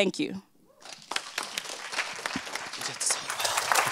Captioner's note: audience clapping